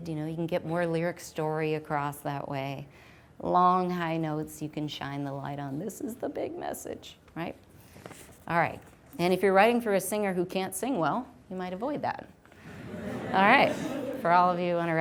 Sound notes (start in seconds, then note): 12.6 audience laughs